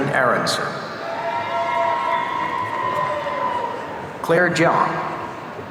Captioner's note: audience cheering